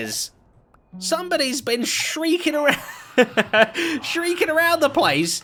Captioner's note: laughs